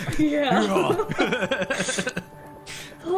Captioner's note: giggles